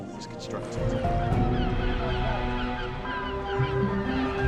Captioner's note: gulls screeching; light orchestral music